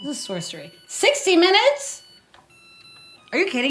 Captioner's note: rice cooker beeping